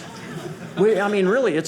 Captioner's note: audience laughing